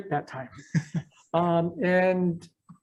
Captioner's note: chuckles